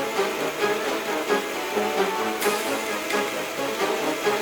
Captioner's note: noisy machine